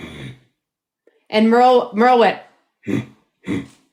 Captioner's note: grunts